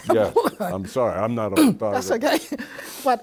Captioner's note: laughs